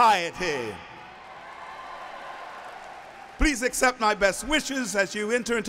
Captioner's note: applauding